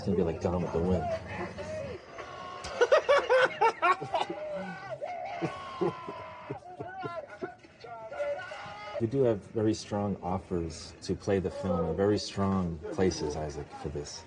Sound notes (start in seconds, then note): 2.6 laughing; 4.9 giggling